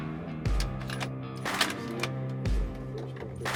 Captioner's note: rifle cocking